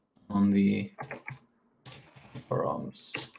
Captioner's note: keyboard clacking